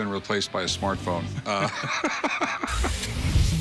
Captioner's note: laughs